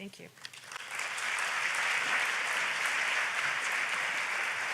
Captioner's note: audience applauds